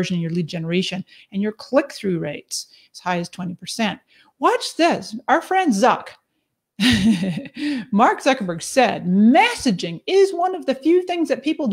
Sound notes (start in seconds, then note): 6.8 laughs